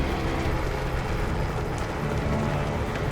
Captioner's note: helicopter flying